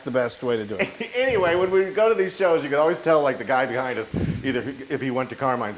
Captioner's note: laugh